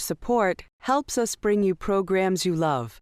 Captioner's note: voiceover